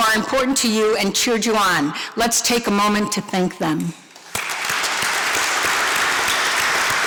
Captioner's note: applause